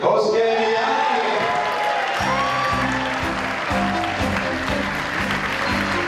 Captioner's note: applause; upbeat classical music